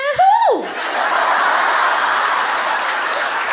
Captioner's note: laughter